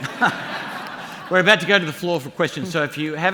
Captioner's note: laughter